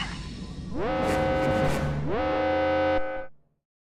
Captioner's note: alarms